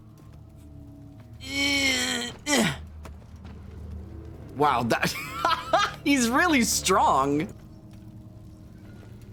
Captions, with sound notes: (Grunts more) Wow, that-- (Laughs) He's really strong.